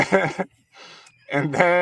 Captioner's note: both laughing